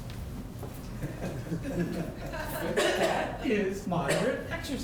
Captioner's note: audience laughing